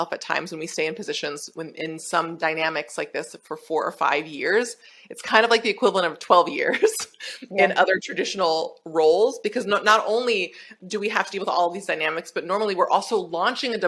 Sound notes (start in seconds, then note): 6.8 chuckles